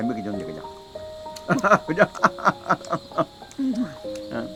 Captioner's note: both laughing